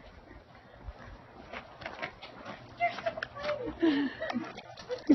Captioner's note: laughter